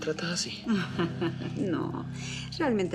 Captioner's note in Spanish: Risas